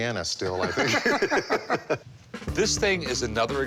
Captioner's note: laughing